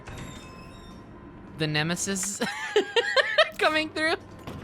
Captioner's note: laughs